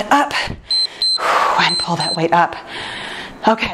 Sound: timer beeps

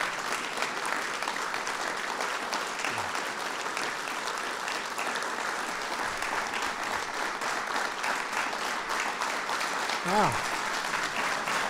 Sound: applause

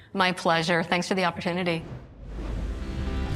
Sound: logo whooshes

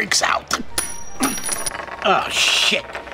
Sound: cock ring clanging

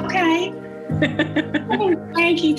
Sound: laughs

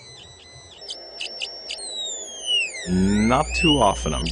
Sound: buzzing changes as he waves his hand over the device

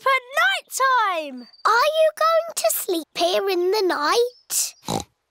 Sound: oinks

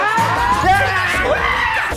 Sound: scream; screams

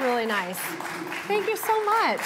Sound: cheers and applause

